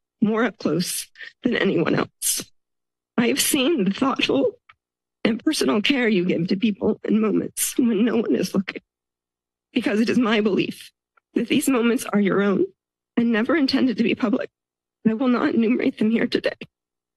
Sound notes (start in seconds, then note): none